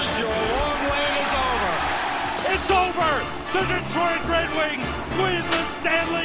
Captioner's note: crowd cheers